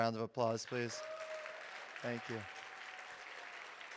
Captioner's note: audience cheering